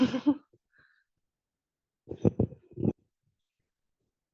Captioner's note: participant laughs